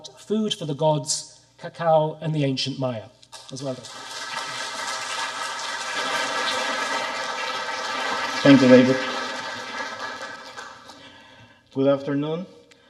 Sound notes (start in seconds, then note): 3.6 audience applauding